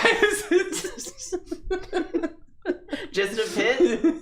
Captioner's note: giggling